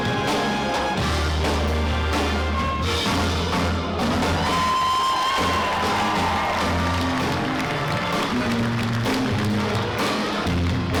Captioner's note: applause; cheering